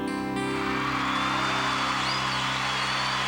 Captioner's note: applause